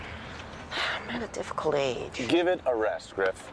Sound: sighs

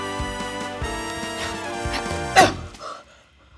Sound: harper gasps; harper grunts; music stops

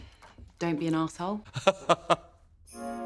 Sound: laughs

